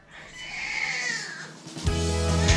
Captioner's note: cries; fast upbeat music